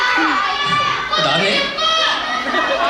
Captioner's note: chuckles